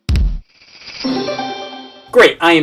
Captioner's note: game chimes